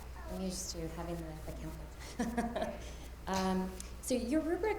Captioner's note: laughs